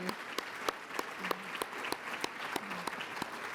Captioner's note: applause